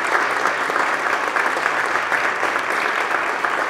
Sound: applause

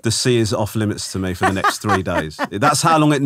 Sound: laughing

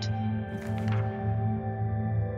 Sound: slide flips; gentle music

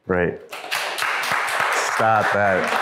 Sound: crowd applause

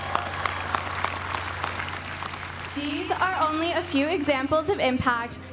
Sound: applause

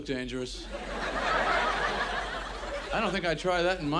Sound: audience laughs

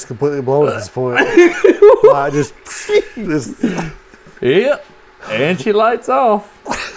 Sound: laughter

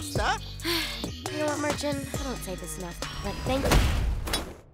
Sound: sighs

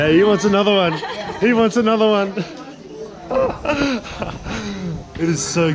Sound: laughs

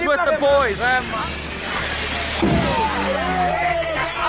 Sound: torch flaring; locals shouting

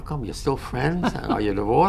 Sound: laughs

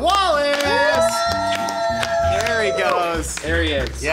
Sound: applause

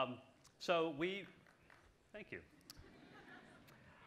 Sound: scattered applause

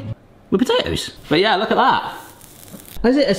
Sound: pan still sizzling

